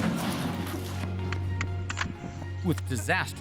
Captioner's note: explosion